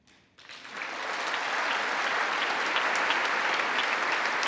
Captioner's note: congress applauding